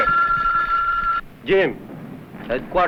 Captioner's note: phone rings